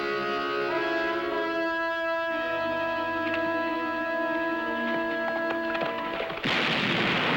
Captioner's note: gunshot